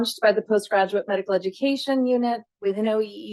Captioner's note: none